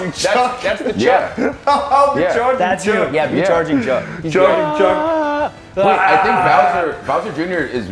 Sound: laugh

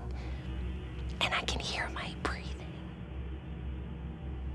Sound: whispering

